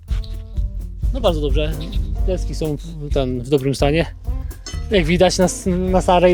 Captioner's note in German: spricht in einer Fremdsprache